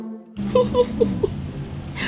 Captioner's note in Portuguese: Risos da Magali